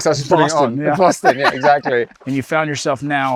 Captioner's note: laughs